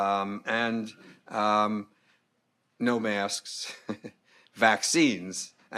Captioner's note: laughing